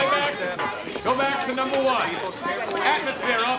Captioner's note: tape rewinding